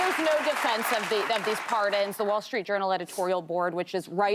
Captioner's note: applause